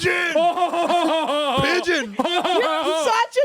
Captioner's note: mock laughs